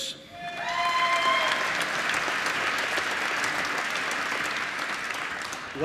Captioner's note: applause